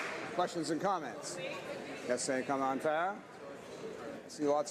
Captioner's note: some Applause